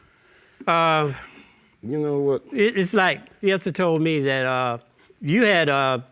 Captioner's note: sighs